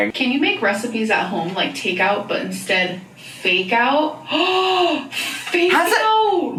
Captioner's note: gasps